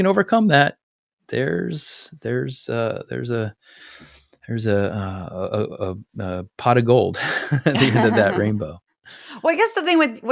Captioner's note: laugh